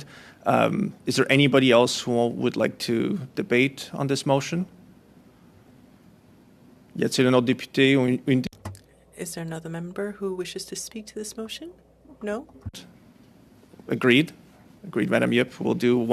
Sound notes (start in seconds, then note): 12.0 speaking French